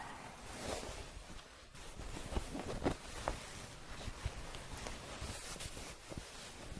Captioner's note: shuffling, a few scratches